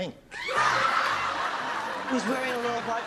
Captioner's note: laughter